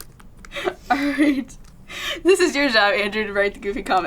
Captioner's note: laughs